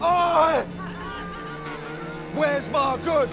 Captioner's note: laughter